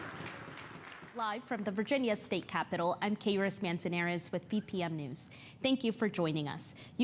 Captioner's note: applause